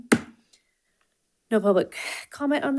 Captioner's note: gavel thuds